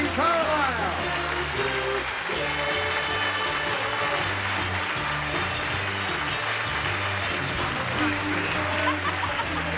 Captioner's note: applause